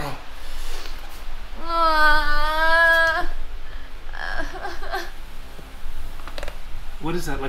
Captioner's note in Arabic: البكاء